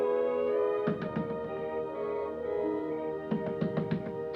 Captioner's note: hand banging